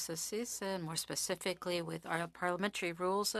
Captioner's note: speaking French